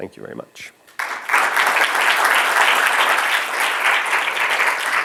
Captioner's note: applause